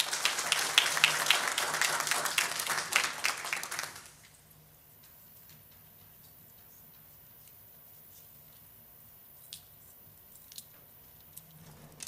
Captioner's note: applause